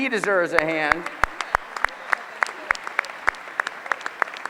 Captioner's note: applause